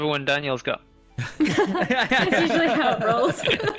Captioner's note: knowing laughter